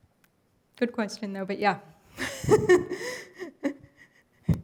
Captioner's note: laughs